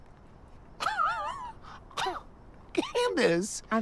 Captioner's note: laughs